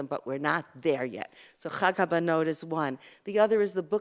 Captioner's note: Hebrew